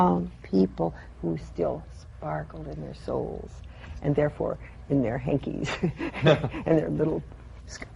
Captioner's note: she laughs